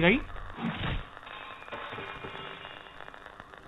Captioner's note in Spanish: otro golpe